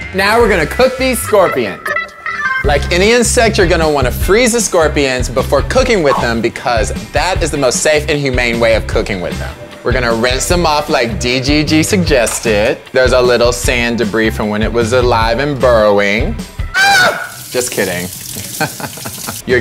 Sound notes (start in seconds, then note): 16.7 screams; 18.4 laughs